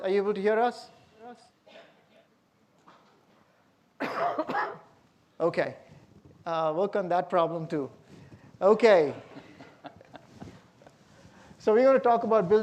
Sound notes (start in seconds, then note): 4.0 coughs; 9.1 laughs